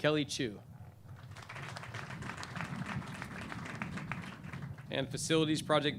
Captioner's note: clapping